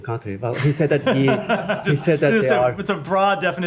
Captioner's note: laughter